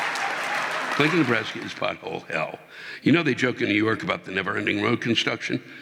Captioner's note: audience laughing